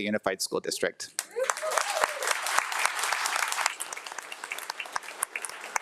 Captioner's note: audience applauding